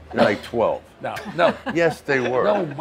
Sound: laughs

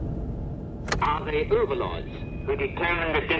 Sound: radio Broadcast

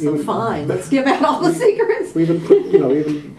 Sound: laughter

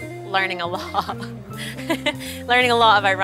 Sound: laughs

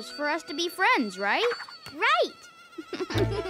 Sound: giggles

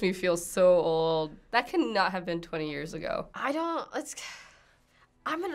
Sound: sighs

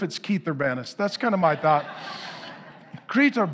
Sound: congregation laughing

